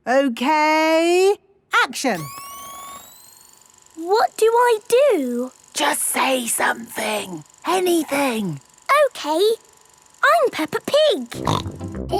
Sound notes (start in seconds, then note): 2.7 camera whirring; 5.9 whispering